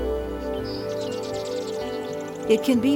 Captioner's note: birds chirping